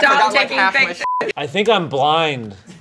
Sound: beep

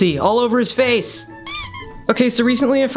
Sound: squeak

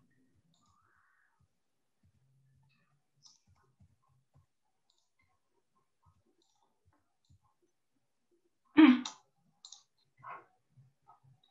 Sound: silence

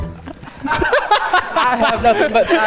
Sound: laughs silently; laughs loudly

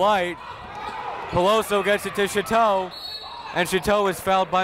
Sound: whistle

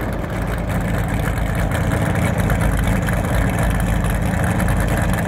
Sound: engine revving

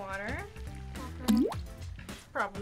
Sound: water droplet splashing

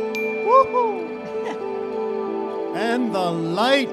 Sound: chuckles

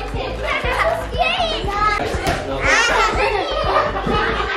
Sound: group chatting

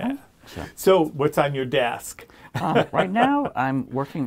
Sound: laughs

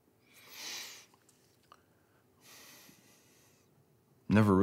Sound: sniffs

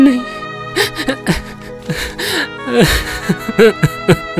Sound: crying

